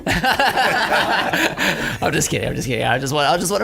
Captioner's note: laughing